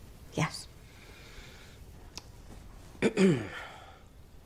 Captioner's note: clears throat